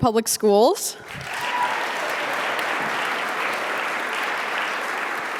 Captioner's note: audience applauding